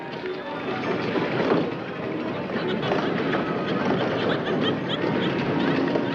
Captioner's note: people chattering; cheerful music